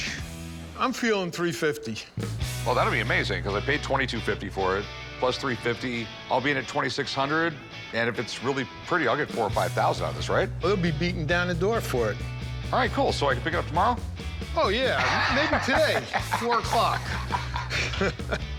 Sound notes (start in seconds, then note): 14.8 laughing; 17.2 chuckling